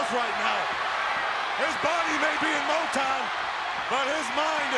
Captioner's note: applause